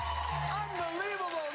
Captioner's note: cheers and applause